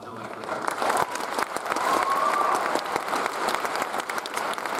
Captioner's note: audience applauds